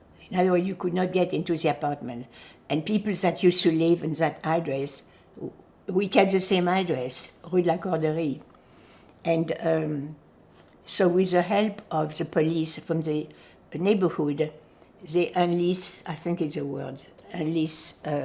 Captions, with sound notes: In other words, you could not get into the apartment. And people that used to live in that address, we kept the same address. [FRENCH] And so, with the help of the police from the neighborhood the allies, I think, is the word allies.